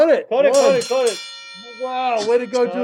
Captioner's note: bell ringing